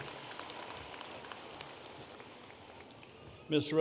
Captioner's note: audience applauding